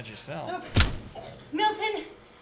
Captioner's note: thump